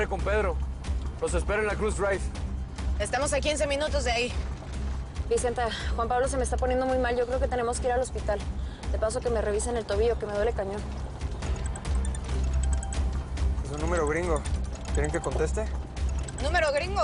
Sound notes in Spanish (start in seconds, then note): 11.5 Suena el celular